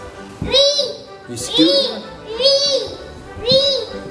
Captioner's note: yelling